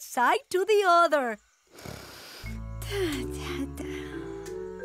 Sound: snoring

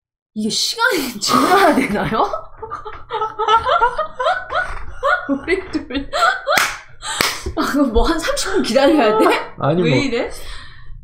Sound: lauging absurdly^-^

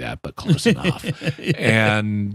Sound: laughing

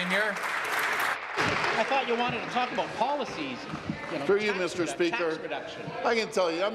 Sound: applause

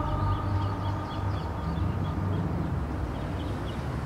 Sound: birds chirping

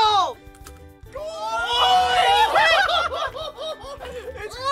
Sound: laugh

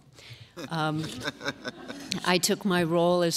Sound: laughter

